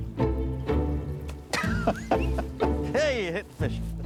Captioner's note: laughs